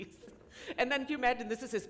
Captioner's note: laughter